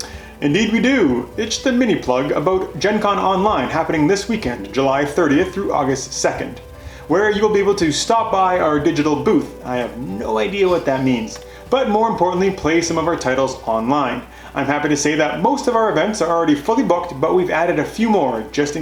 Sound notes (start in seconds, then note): 9.5 whispers